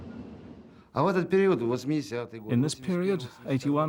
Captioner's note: speaking Russian